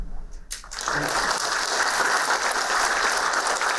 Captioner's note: applauding